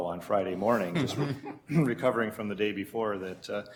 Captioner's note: chuckling